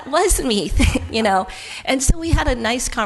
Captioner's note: laughs